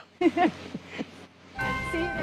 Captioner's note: laughter